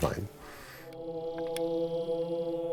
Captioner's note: chanting